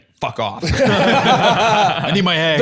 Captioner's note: all laughing